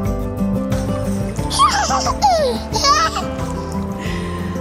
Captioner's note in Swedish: skrattar